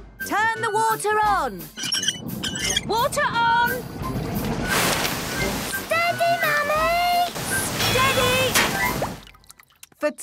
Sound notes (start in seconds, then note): 1.6 wheel squeaking